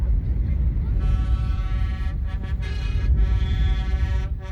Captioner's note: horns blaring